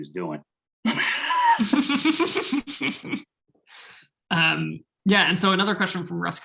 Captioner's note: laughing